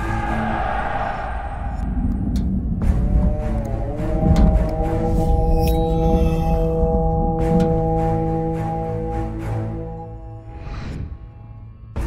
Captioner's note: sound effect